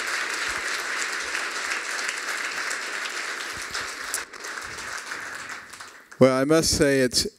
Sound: applause

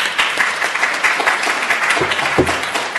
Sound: applause

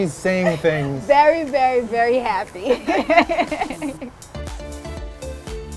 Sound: laughing

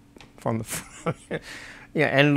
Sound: laughs

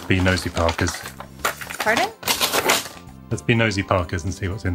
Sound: paper ripping

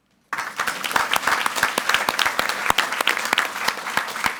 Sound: audience applauding

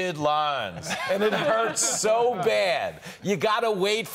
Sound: laughter

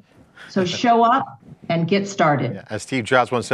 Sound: laughs

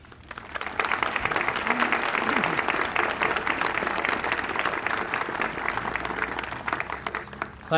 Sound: applause

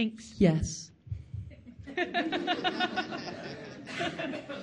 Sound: all laughing

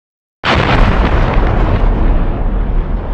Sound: big explosion

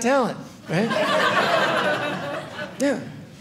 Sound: audience laughing

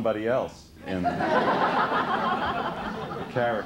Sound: laughter

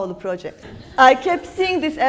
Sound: laughs

